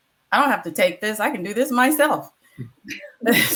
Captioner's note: laughs